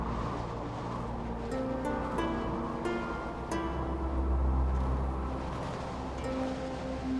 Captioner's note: wind howling